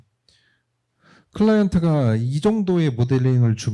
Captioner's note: speaking korean